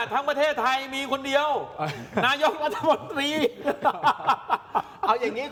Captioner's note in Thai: เสียงหัวเราะ